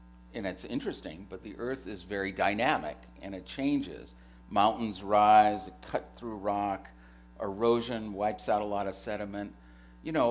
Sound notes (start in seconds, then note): none